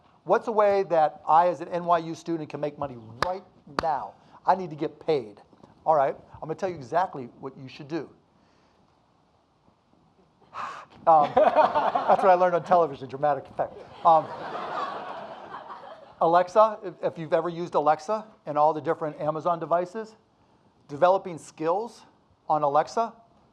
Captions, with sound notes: "What's a way that I, as an NYU student, "can make money right now? "I need to get paid." All right, I'm gonna tell you exactly what you should do. (audience laughing) That's what I learned on television, dramatic effect. (audience laughing) Alexa, if you've ever used Alexa and all the different Amazon devices, developing skills on Alexa